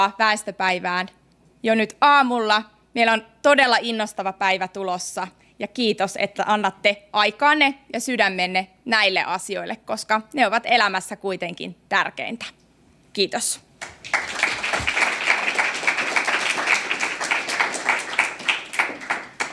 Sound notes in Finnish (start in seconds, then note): 13.8 aplodeja